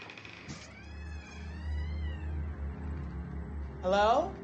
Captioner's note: door creaking